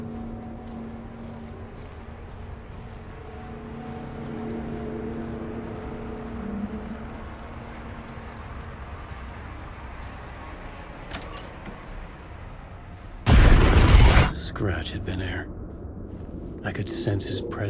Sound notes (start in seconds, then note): 0.1 ominous music; 6.1 gunshots